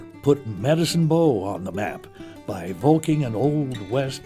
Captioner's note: voiceover